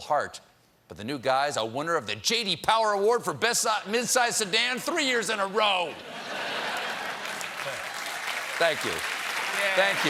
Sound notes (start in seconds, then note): 5.9 laughter; 6.7 applause